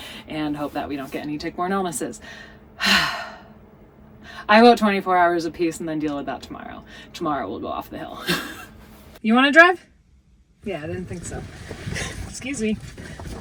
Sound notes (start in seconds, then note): 2.8 sighs; 8.2 chuckles